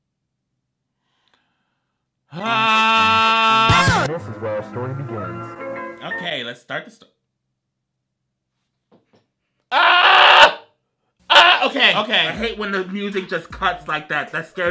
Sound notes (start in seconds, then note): 2.3 groans; 9.7 screams